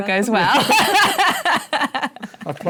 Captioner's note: laughs